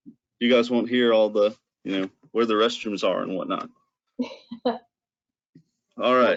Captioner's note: laughter